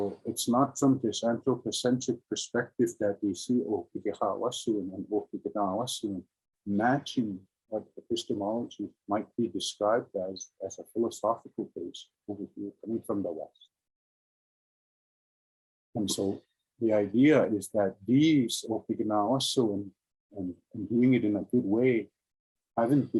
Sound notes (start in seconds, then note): 3.9 speaking in Indigenous language